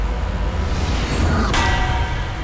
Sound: clanking

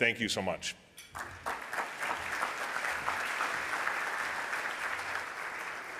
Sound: audience applauding

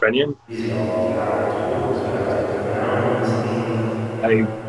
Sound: sound of echoed, overlapping voices

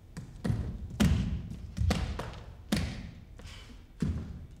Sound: body thumps

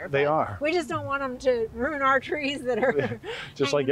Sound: chuckling

